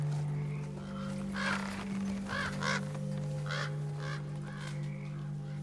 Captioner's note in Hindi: कौवों की आवाज़